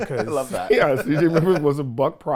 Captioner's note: laughing